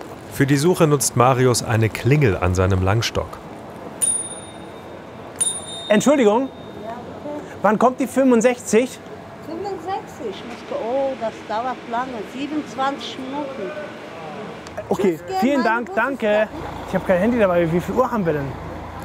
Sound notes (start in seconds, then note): 5.3 he rings twice